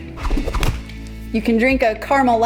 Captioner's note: whistling through air; bottle smacking hand